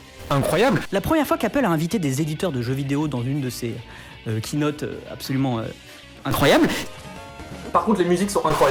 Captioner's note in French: hésitation